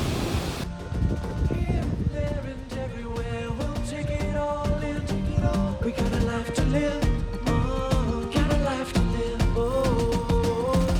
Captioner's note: surf noise